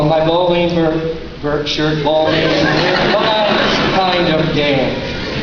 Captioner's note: laughter